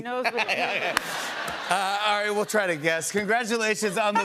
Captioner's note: laughter